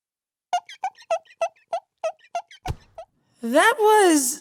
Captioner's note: squeaking